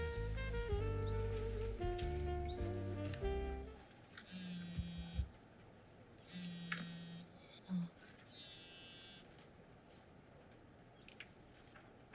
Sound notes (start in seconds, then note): 4.2 phone buzzing